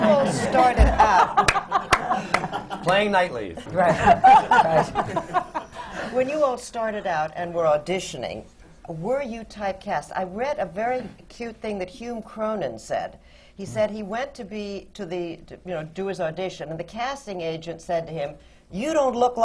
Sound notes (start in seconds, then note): 3.6 laughter